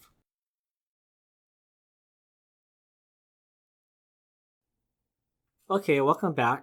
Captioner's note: pause